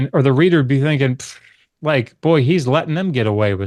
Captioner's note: scoffs